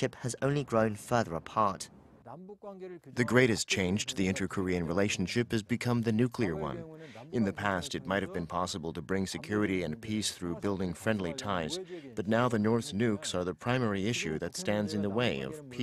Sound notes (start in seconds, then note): 2.0 Korean